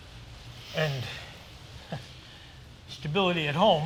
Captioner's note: laughs